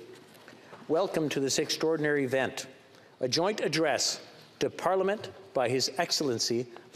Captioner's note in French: voix de l'interprète